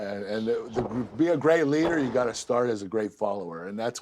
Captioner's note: none